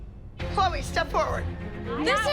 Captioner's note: arguing